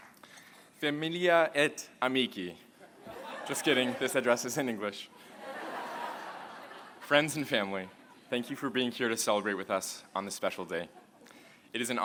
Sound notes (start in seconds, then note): 5.1 laughter